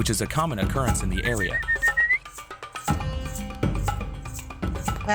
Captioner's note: whistling